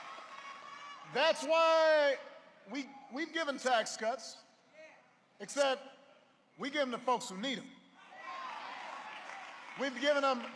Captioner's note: applause